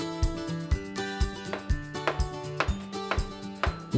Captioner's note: hammering